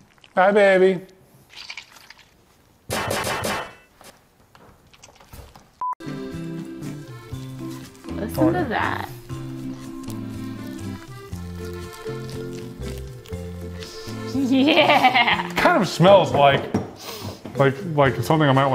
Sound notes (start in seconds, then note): 0.0 mixture squishing; 3.0 metal clanking; 6.6 lighthearted music; 10.3 mixture squishing; 17.0 sniffs